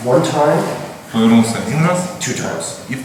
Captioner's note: speaking in a foreign language